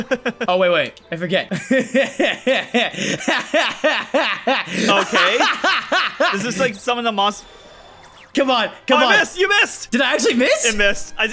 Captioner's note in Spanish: risa malévola